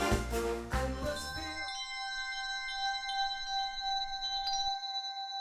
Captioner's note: spiritual chime of bells